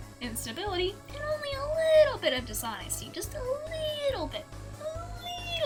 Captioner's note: high pitched voice; higher pitched voice